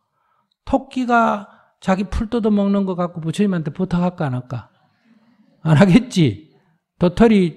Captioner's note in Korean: 웃음